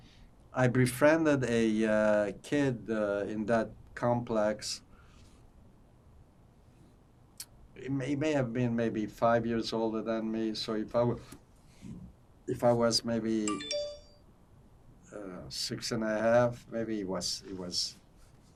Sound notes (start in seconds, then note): 13.5 phone ringing